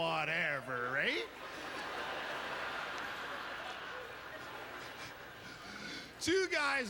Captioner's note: audience laughter